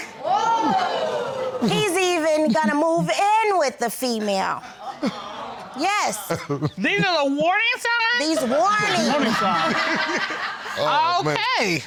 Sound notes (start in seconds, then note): 4.5 chuckles; 8.8 laughs